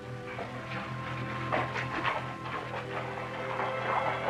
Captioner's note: hooves clopping